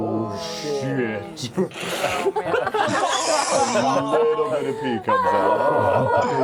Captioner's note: laughter